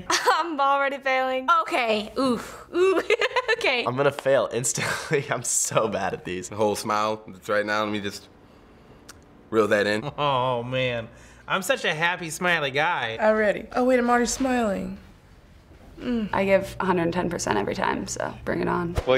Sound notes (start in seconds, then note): 0.2 scoffing; 2.7 giggling